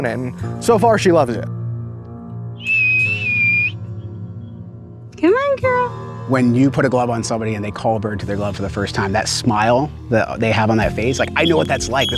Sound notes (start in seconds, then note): 2.6 whistling